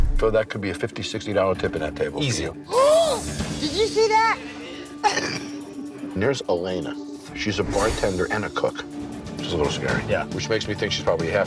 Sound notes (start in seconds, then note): 4.4 gasping; 5.4 muffled laughing